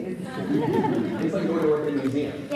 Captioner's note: audience laughs